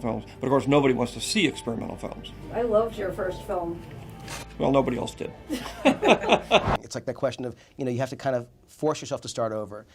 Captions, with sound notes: but of course nobody wants to see experimental films. "I loved your first film." Well nobody else did. (both laugh) It's like the question of, you know you have to kind of force yourself to start over